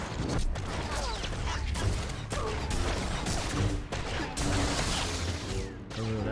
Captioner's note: gunshots